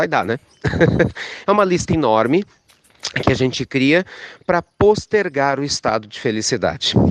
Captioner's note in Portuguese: risos